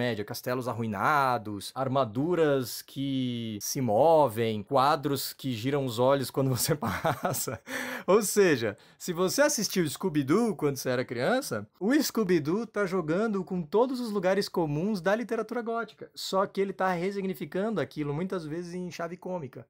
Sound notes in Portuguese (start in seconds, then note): 6.6 risos